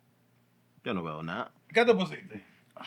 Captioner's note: speaking Spanish